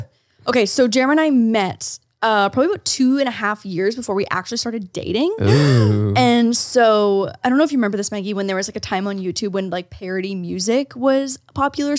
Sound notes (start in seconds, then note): 5.4 gasps